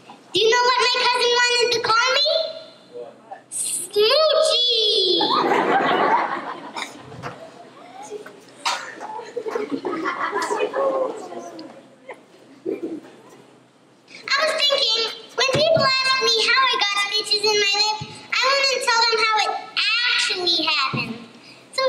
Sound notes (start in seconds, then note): 5.1 laughter